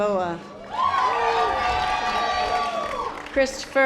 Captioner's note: audience applause